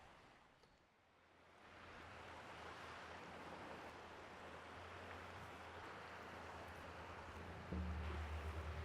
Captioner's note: waves lapping the shore